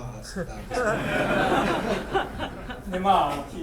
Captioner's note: laughing; speaking in foreign language